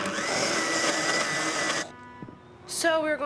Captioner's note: whirring